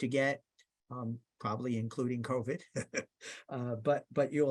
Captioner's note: laughs